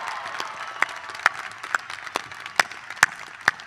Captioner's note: applause